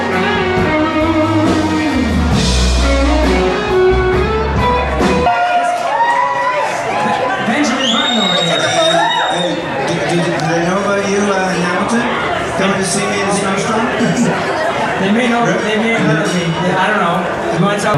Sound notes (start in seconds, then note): 5.3 cheering and clapping